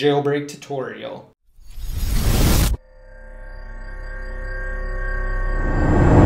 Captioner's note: intro swooshing sound